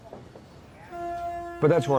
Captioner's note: car honking